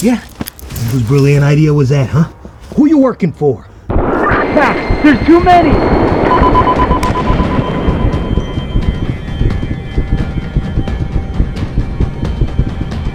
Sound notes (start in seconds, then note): 4.0 gunshots upstairs; 4.9 on walkie-talkie